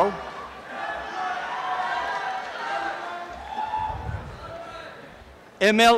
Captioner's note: applause and cheering